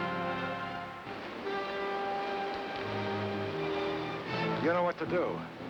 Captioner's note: water rushing